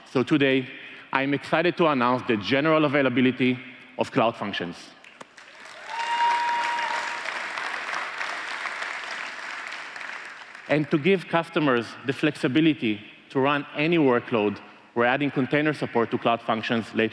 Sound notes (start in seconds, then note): 7.7 applause